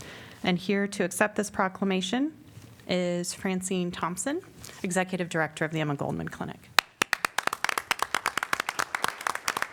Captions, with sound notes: And here to accept this proclamation is Francine Thompson, Executive Director of the Emma Goldman Clinic. [APPLAUSE]